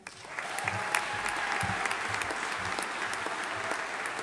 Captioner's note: audience applauding